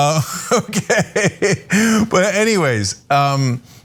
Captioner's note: laugh